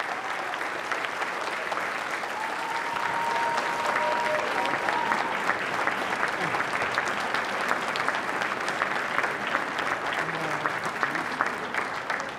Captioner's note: applause